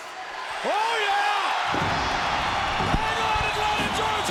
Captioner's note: audience cheering